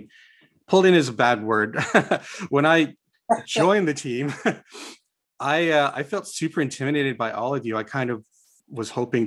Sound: chuckles

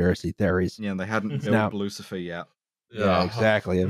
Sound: laughs

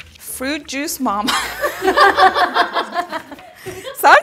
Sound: everyone laughing

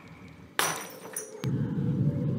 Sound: Yoda breaks glass

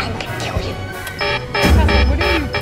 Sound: alarm going off

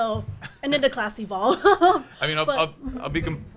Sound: laughs

